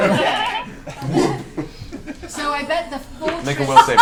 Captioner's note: all laugh